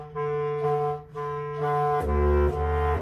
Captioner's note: none